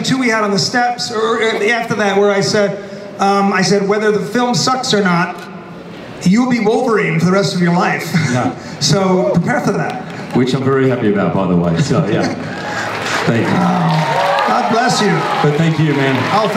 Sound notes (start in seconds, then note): 8.4 laughs; 12.2 audience applauds